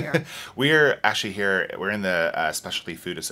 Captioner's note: laughs